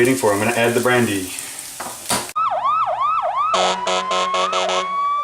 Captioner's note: truck Sirens